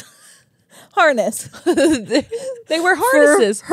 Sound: laugh

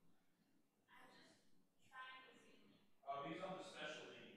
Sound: faintly speaking

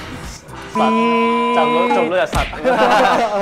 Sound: beep~

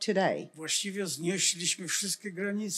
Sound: foreign language

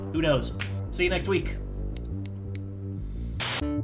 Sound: snip, snip, snip

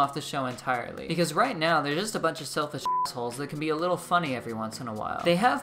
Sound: beep

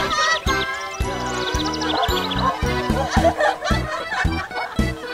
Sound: chattering; laughing

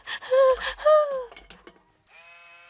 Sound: sob

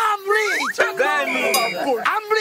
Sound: henchmen speaking in foreign language

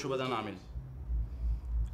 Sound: in Arabic; man in English

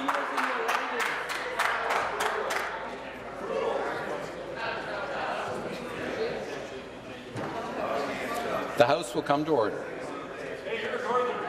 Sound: applause

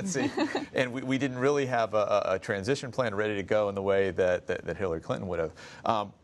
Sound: laughter

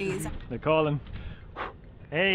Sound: big exhale

